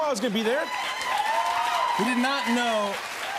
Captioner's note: cheers and applause